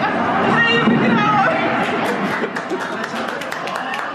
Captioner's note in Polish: śmiech